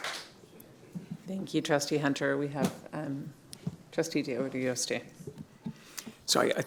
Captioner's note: cheers and applause